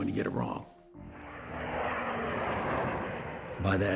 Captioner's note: airplane engine rumbling